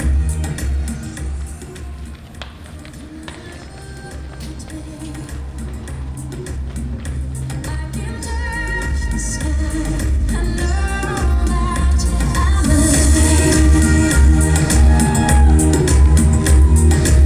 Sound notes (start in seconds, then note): 7.8 soft street noise